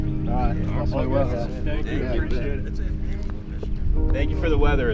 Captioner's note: all chattering